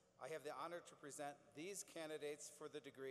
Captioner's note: none